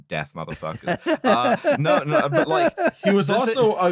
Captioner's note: laughs